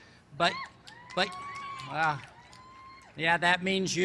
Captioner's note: cheers